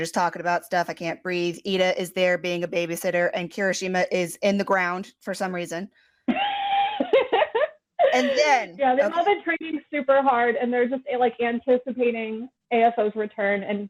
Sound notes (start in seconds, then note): 6.6 wheeze